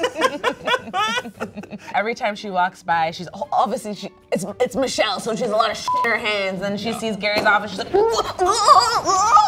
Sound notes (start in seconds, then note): 0.0 both laugh; 5.8 beep